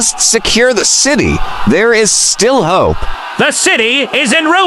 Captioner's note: hoarse, fearful